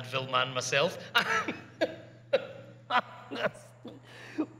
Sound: awkward chuckle

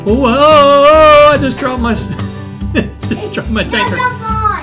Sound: laughing

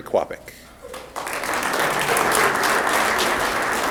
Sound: applause

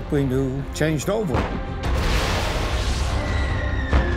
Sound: explosions, missiles whining

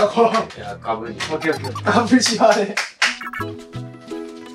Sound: laughing

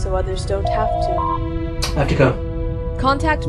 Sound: door Chime

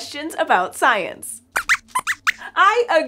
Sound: squeaks squeaks

